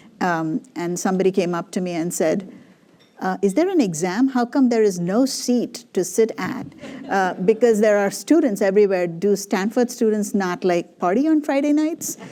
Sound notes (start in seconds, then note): 6.8 laughter; 12.1 laughter